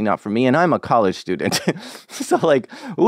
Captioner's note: laughs